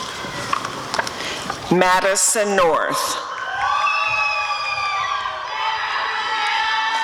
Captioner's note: audience cheering